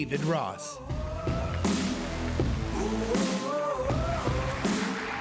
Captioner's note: audience applauding